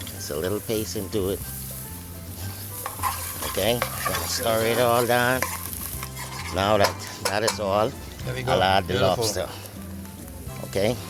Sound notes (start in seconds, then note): 2.4 spoon scraping